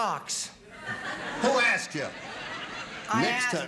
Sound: laughter

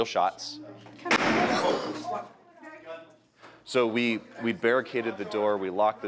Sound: sound of gunfire

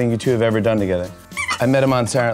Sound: toy squeaks

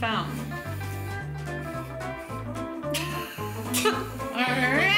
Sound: soft spraying, laughs

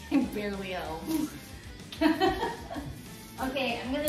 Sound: girlfriend laughs

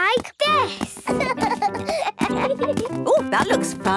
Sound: both laugh

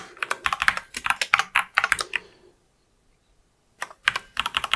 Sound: blank Audio

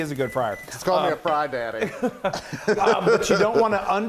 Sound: laugh

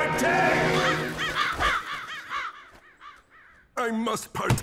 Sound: crows cawing

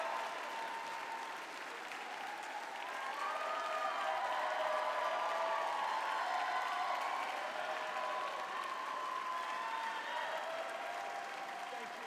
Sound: applause

